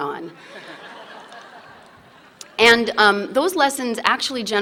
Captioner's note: laughter